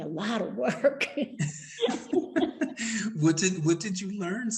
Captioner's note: both laughing